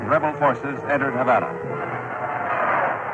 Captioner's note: archival news audio